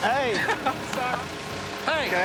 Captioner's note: laughs